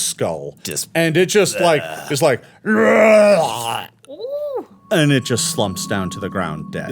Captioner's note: roaring